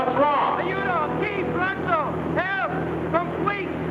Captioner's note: man yells in foreign language